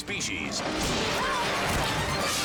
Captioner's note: rifle blasts